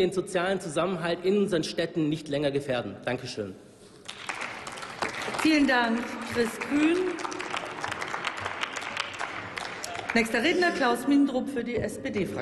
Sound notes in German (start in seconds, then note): 4.0 Applaus